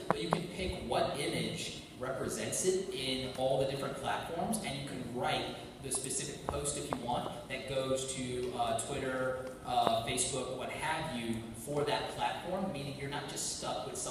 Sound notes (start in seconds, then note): none